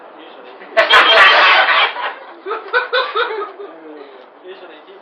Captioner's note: laughter